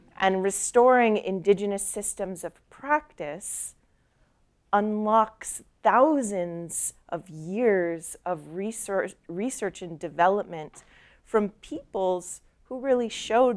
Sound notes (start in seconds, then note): none